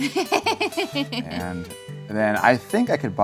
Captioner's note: laughs